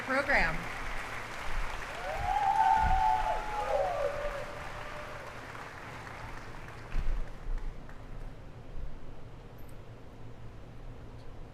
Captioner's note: applause